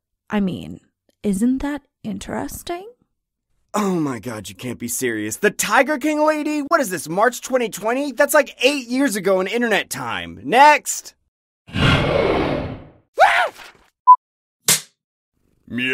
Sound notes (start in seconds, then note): 11.3 tiger king lady roaring; 13.1 screaming